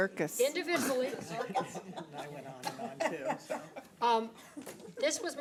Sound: people laughing

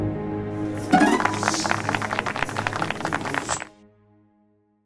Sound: applause

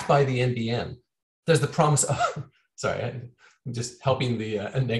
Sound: chuckles

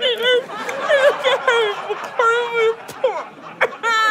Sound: audience laughter; sobbing resumes

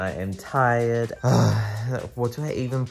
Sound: groans

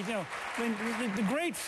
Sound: applause

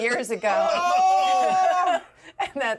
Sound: speaker laughs

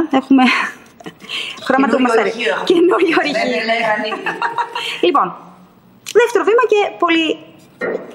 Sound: laughs

